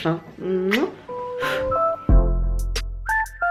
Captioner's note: kiss